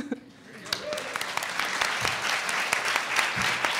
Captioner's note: audience applauds